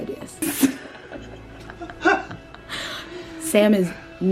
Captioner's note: laughs